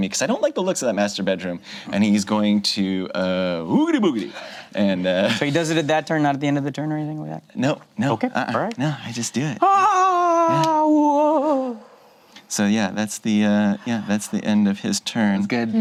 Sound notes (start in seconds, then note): 4.4 group chuckles; 9.6 wails